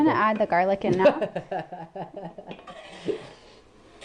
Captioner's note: laughter